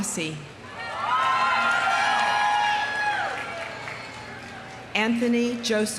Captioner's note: audience cheering; audience applauding